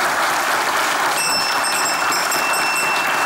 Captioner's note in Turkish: Zil sesi